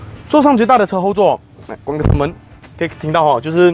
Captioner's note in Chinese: 关车门